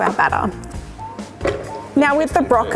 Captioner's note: clunk